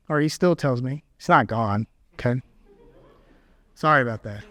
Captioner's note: audience laughs